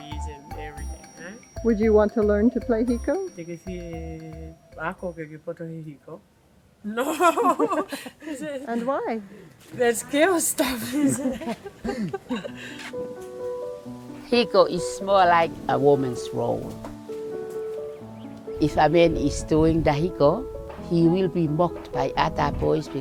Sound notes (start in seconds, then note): 3.7 speaking in Tongan; 13.0 laughs